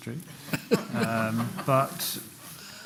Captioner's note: laughter